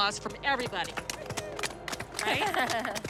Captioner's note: applause